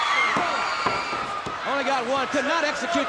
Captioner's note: hands thudding